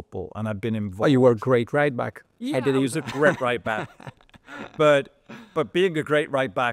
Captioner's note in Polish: śmiech